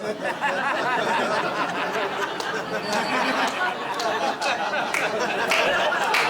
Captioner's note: laughter